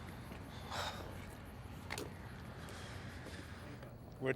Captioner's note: Addison scoffs